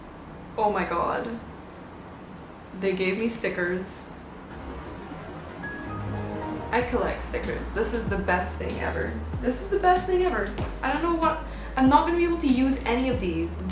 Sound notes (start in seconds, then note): 4.4 windows shutting down sound effect